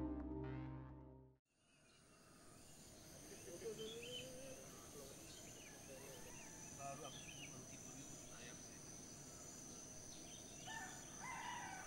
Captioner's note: sounds of birds, roosters crowing, jungle ambiance